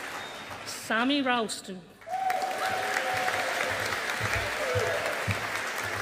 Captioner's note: audience applauding